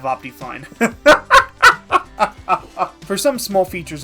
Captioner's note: cackling